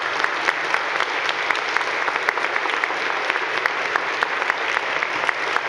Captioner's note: audience clapping